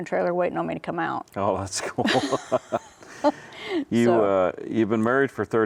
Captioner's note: both laugh